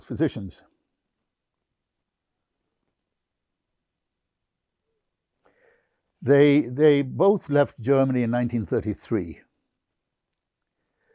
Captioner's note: pauses 6 seconds